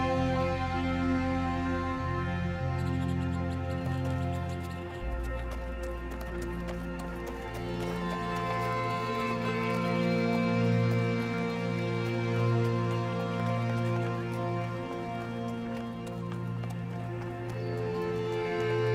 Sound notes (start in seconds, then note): 6.3 horse hooves clomping; 15.5 light music continues